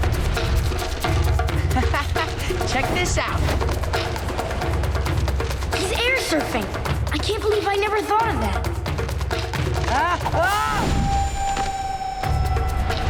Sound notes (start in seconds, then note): 1.3 laughing